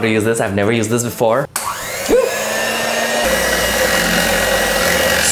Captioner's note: whisk whirring